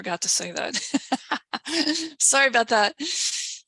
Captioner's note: laughing